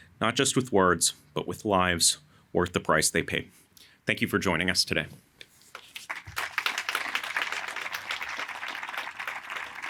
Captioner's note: applause